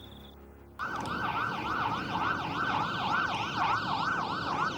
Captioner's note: sirens wailing